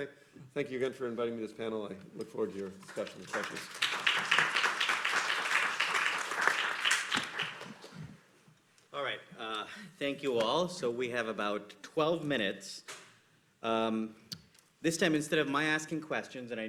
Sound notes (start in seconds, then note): 2.8 applause